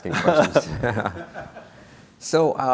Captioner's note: laughing